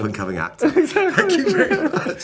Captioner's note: laughing